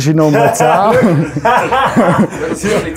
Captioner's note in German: lacht; Streller lacht